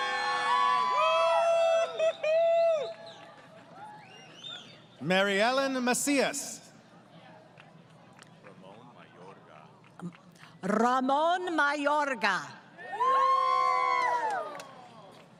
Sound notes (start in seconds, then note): 0.0 crowd Cheering; 7.5 applause; 12.8 crowd Cheering